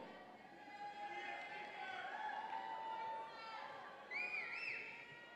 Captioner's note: audience cheering